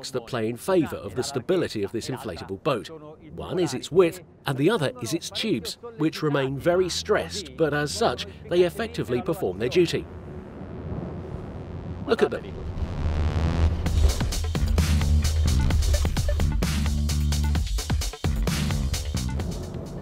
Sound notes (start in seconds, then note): 13.1 engines buzzing; 13.2 bouncy, stylish electronic music